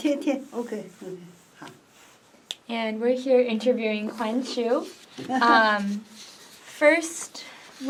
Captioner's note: in Mandarin